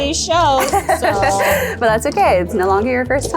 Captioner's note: laughs